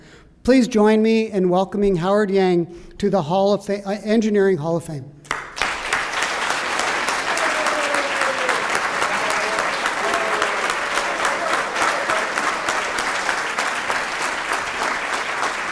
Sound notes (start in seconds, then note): 5.4 applause